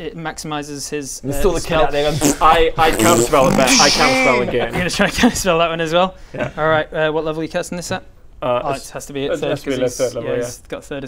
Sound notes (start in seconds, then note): 2.0 farts; 2.9 pffp; 3.3 wails